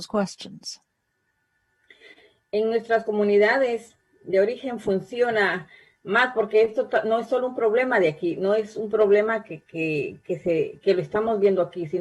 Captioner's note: spanish